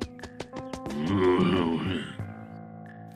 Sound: groan

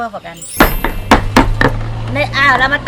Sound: mortar pounding sound

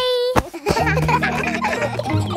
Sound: kids laughing

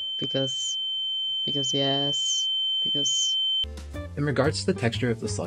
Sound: ear ringing sound

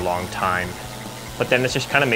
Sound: chainsaw buzzing

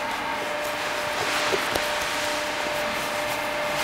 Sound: dull machine whine

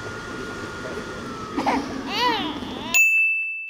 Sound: sob

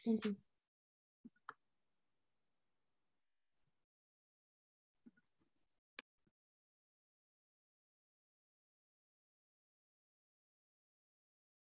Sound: pause

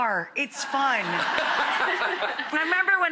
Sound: audience laughing

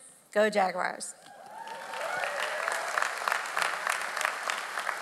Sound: audience applauds

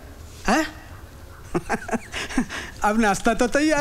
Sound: laughs

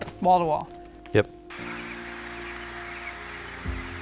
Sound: chirping

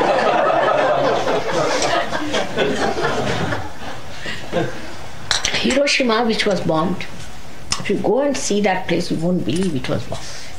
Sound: laughter

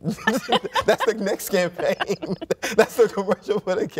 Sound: both laughing

